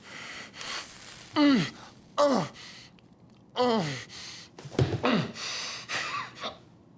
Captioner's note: skin sizzles; Chuck moans